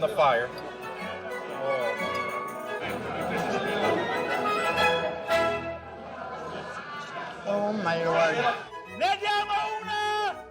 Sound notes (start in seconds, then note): 1.7 shouting in Italian